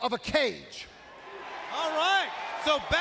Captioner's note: crowd cheering